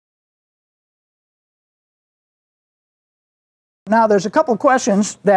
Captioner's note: silence